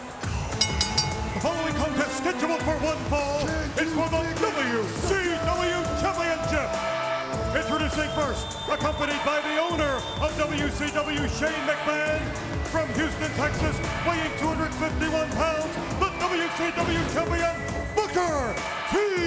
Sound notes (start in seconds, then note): 0.5 bell dinging